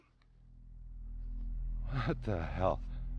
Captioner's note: disembodied Voice